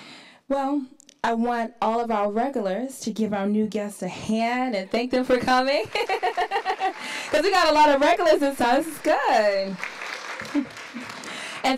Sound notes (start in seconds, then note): 5.4 applauds; 5.9 laughs